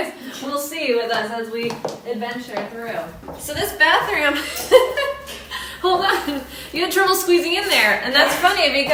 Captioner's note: laughing